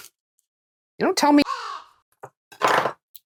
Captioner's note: caw